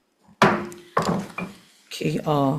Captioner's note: gavel pounding